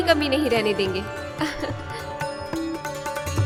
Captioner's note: chuckles